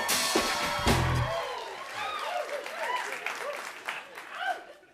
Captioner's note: cheers and applause